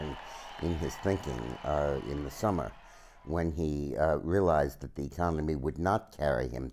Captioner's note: cheers and Applause